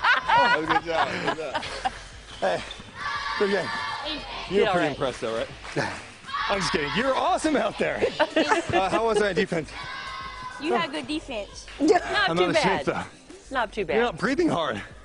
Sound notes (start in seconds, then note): 0.0 laughter; 3.9 laughter